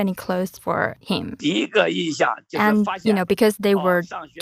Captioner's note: speaking Mandarin